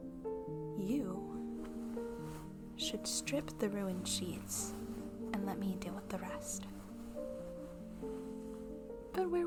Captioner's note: fabric sounds